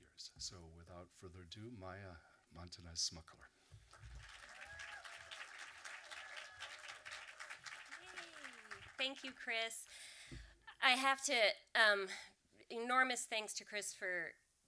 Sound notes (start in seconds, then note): 3.8 audience applause